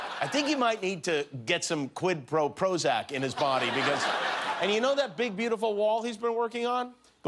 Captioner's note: laughter